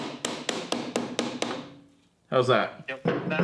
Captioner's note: hammer bangs